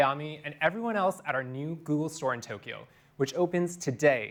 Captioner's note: speaking Japanese